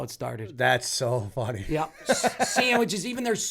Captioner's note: laughter